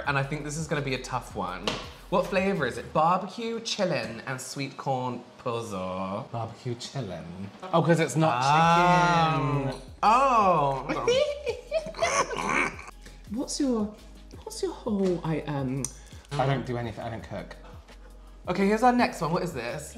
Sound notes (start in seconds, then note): 10.9 lots Of Laughing